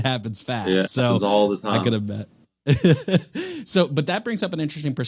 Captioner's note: chuckles